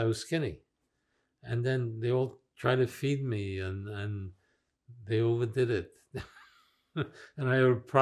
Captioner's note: laughing